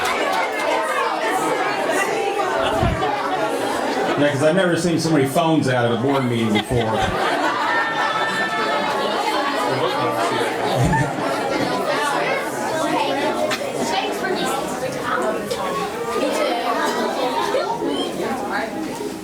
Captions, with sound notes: - 'Cause I've never seen so many phones out on a board meeting before. (audience laughing) (murmurs)